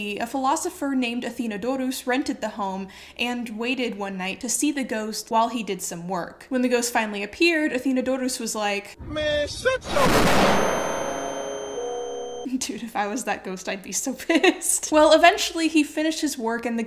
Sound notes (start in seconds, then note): 9.0 explosion resonates; 14.5 giggling